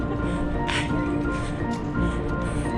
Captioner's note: twittering bird sounds